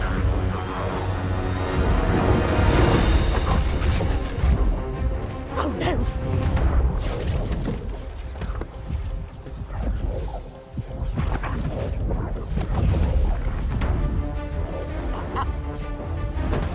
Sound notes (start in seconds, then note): 3.3 crackling